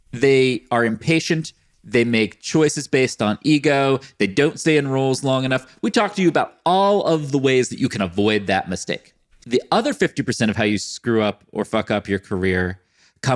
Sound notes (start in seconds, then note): none